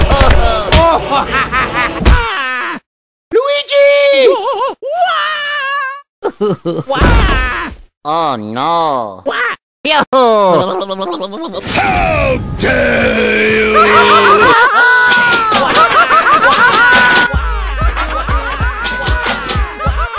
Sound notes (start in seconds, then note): 11.6 Mario and Luigi screaming